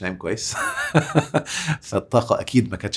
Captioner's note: laughs!